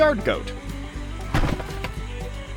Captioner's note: thud